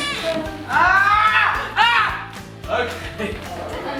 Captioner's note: children shouting